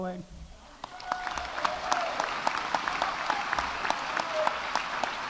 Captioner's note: audience applauding